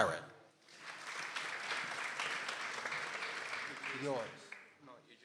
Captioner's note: people applauding